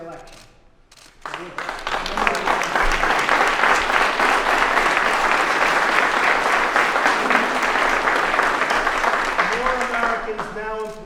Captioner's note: applause